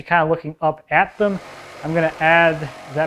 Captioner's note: saw grinding